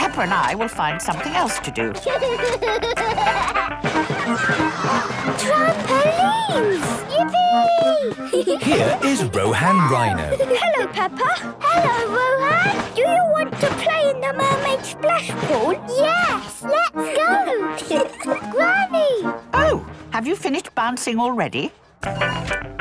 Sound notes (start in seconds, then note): 2.4 George giggles; 4.2 gasps; 8.1 giggling; 22.5 upbeat music